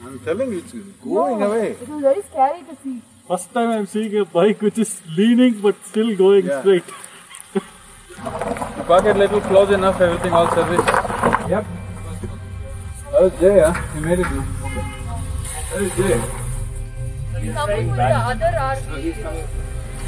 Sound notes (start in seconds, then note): 6.8 laughs